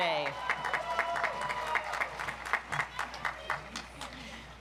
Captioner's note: audience applauds